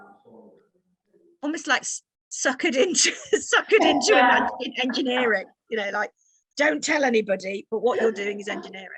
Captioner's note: laughing